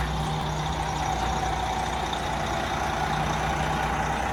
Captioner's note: RV engine running